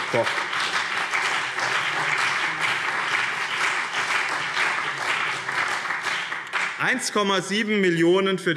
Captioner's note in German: Beifall BÜNDNIS 90/DIE GRÜNEN und CDU